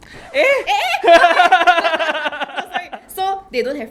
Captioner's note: gasp!